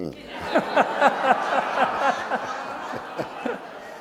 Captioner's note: audience laughing